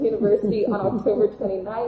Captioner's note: laughing